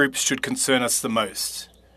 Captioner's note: speaking French